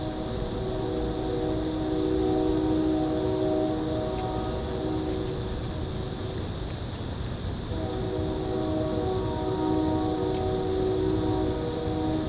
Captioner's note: train